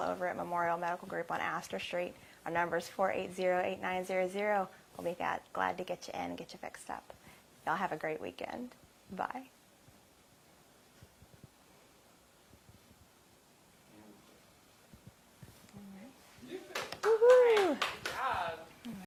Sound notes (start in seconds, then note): 16.7 applause and cheers